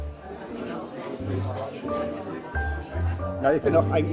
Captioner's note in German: Stimmengewirr